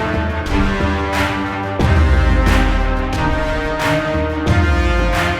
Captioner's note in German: Beifall